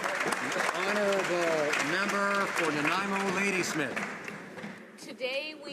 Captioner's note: some Applause